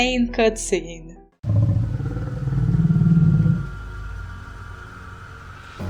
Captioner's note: growl